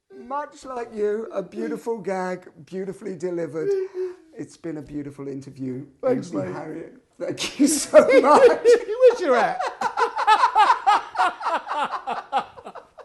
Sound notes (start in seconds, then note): 7.4 Ainsley and Paul laughing